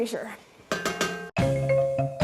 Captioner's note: pot clanging; bouncy music